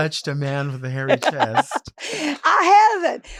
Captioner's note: Marguerite chuckles